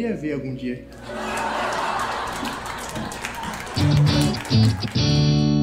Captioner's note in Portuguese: risadas e aplausos